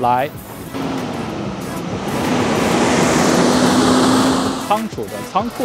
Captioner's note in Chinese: 汽车噪音